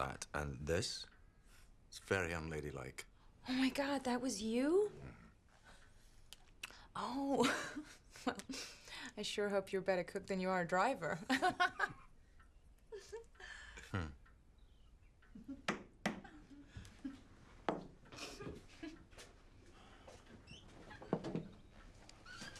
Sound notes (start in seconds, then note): 8.0 laughs; 12.9 laughs; 15.9 Kate giggling; 15.9 hand thuds